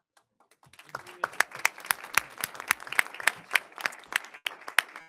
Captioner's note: audience applauding